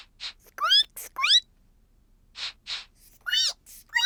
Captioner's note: sniffs and squeaks; both sniff and squeak